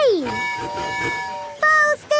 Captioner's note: tooting